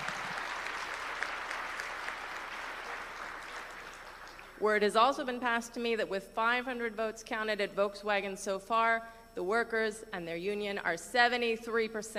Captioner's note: cheering